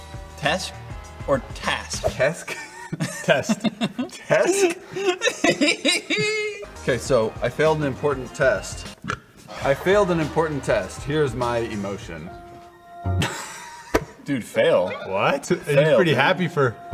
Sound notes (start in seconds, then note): 4.8 laughs at his own joke; 9.0 burps; 13.2 failed to be sad and laughs